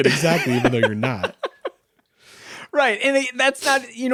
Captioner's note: laughing